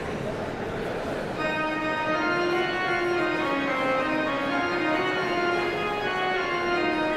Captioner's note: audience chatter continues